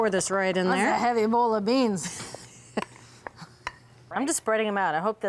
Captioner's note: laughs